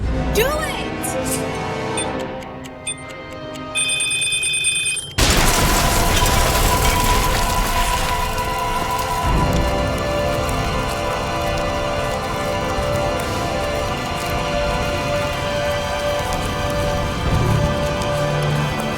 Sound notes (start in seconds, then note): 0.9 bomb ticking; 5.2 bomb blasting; 10.0 tense music